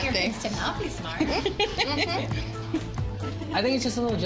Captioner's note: all laughing